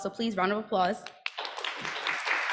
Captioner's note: applause